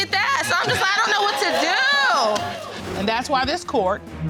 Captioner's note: audience cheering